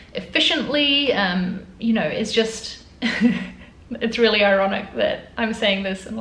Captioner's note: chuckling